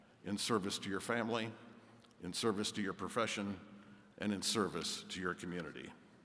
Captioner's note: none